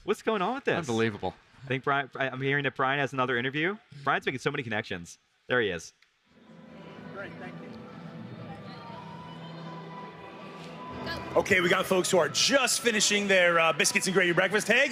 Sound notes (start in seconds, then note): 8.3 attendees chattering; 8.3 slow-paced music